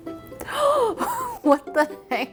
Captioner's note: gasping